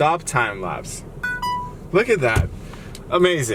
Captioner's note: beeps